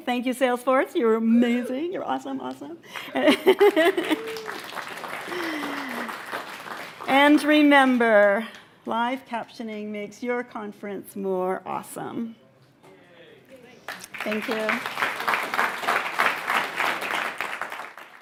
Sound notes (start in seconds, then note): 3.5 applause; 13.8 applause